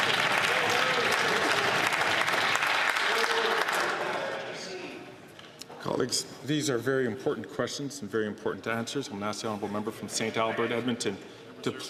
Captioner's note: some Applause